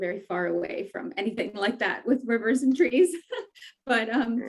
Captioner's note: laughs